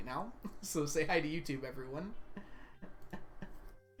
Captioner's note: laughs